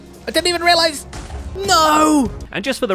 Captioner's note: Creeper explodes